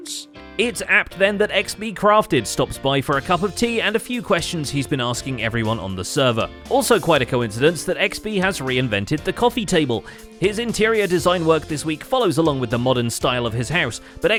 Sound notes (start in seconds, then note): none